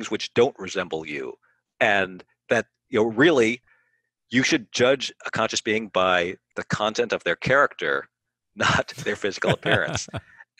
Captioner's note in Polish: się śmieje